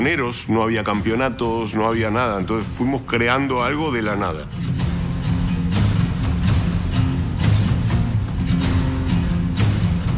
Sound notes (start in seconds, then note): 1.1 speaking in Spanish